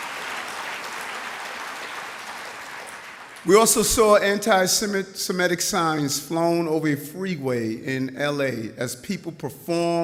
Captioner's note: applause